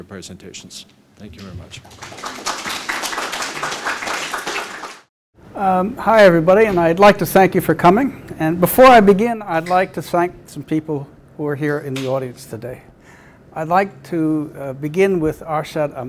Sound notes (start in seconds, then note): 1.3 audience clapping